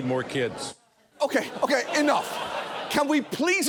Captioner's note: audience laughing